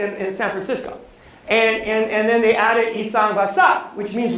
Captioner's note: non-english speech